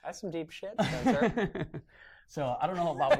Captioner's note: laughter